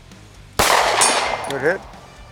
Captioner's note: gunshot fired